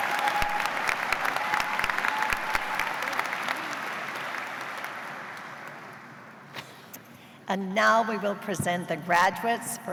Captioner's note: cheers and applause